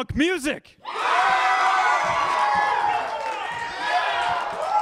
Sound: crowd cheering

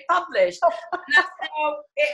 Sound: laughing

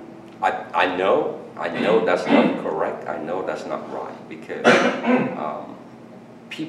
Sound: coughing in background

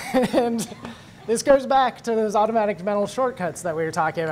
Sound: laugh

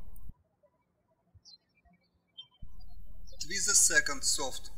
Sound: birds chirping

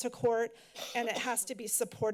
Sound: coughing in background

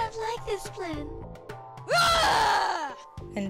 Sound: yelling

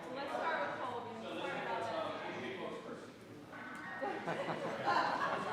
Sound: audience chattering indistinctly

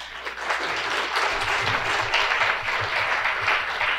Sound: clapping

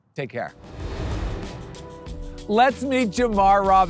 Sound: transition whooshing; upbeat music

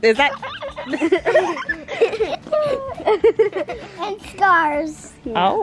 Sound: children giggling

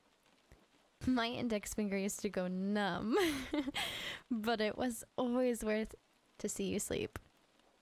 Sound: giggle

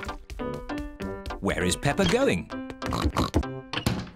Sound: oinks

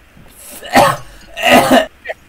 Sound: coughing

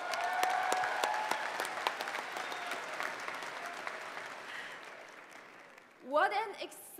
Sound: applause

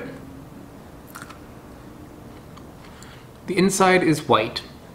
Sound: seed crunching

